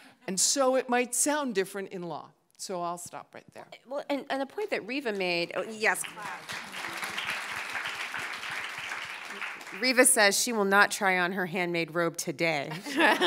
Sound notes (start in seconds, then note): 5.7 all applauding